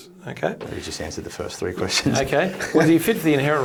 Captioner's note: chuckles